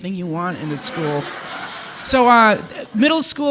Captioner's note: participants laughing